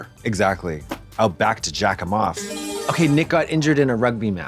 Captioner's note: bright chime